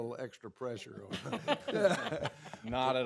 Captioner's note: laughter